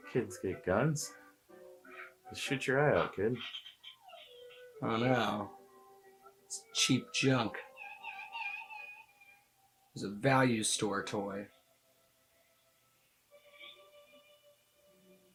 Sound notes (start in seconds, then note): 7.6 child sobs